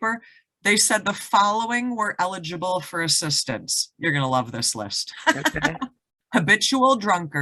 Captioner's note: laughs